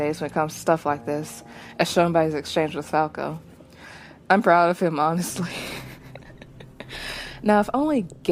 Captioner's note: laughs